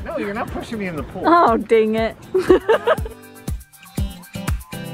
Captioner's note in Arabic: يضحك; موسيقى مبهجة